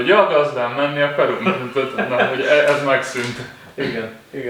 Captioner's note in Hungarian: nevetés